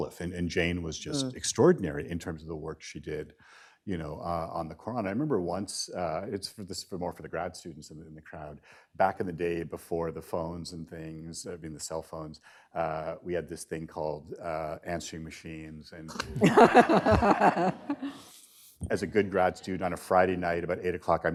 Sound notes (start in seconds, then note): 16.1 laughter